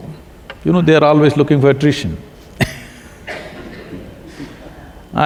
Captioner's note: laughs